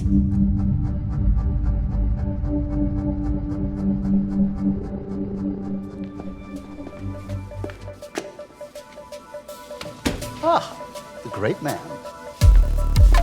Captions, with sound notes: (gentle music) (footsteps clicking) - Ah, the great man.